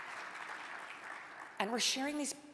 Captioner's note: audience applauding